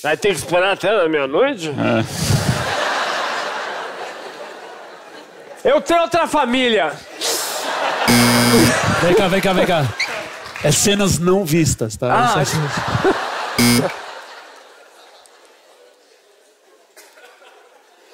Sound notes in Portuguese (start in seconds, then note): 8.1 campainha; 13.6 campainha